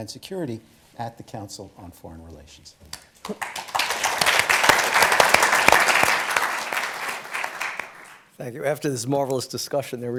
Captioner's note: applause